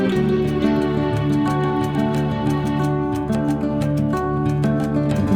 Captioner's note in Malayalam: കരഘോഷം